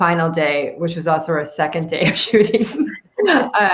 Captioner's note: everyone laughs